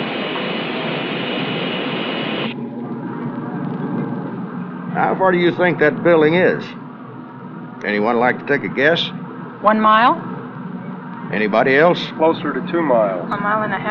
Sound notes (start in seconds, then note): 2.5 bus engine